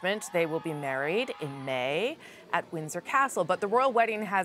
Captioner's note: cheers and applause